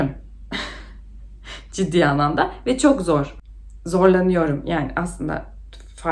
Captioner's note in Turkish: boğazını temizler